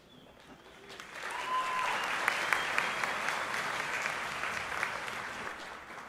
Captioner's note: audience applauding; audience cheering